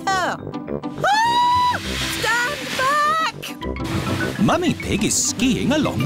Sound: shrieks

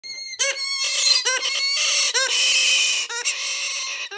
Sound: bird squawking

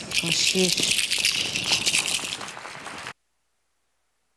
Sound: applauds

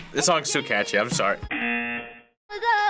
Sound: buzzer

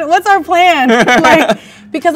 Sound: man laughs

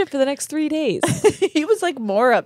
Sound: laughs

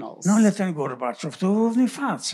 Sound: foreign language

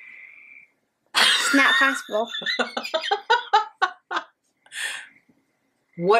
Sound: laughing

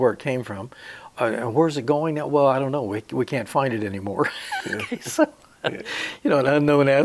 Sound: he laughs

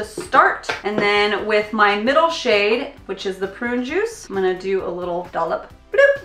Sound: bloop

